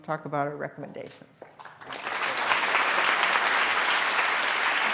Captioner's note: applause